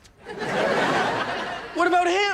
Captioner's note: audience laughs